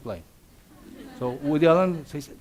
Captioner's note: audience laughs